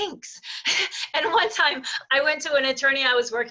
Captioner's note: chuckling